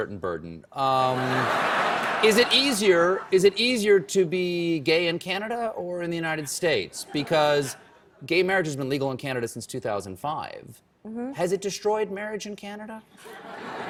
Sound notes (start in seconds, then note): 2.8 laughter; 13.2 laughter